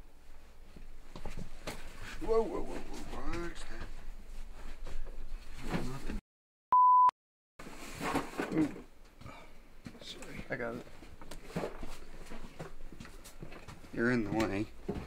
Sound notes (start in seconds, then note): 6.7 beep